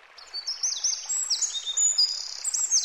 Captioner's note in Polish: świergot ptaków